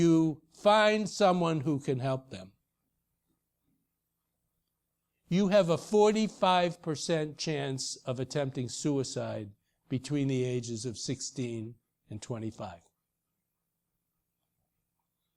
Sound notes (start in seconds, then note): none